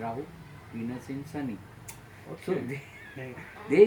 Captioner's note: laughs loud